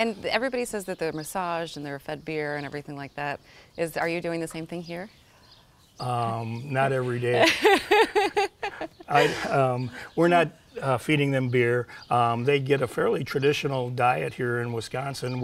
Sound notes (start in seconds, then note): 7.1 laughing